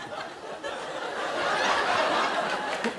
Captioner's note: laughter